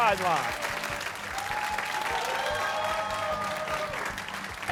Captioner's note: cheering